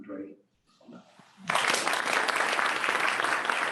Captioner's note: clapping